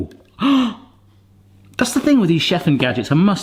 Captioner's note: gasps